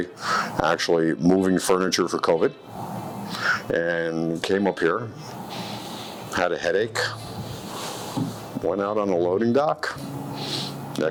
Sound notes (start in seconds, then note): 0.1 breathing deeply; 8.1 object thumping on floor; 10.3 sniffling